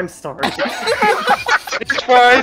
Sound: laughter

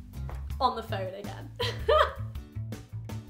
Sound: laughs

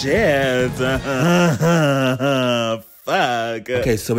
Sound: giggling

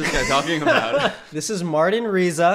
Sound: laughs loudly

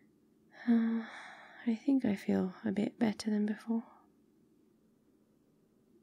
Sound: sighs

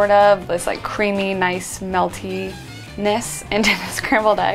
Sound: laughs

